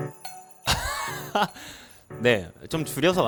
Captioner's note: laughs